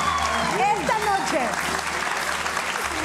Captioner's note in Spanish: Aplausos